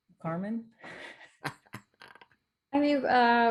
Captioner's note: laughs